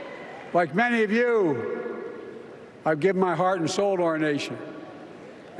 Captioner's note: applause